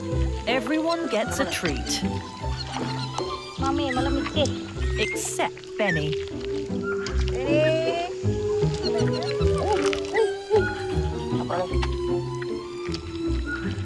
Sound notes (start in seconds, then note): 3.6 babysitter speaking in foreign language; 8.9 orangutans squeaking